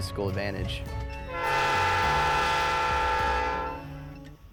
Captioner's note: train whistle blows